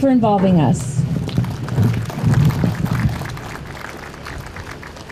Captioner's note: audience starts clapping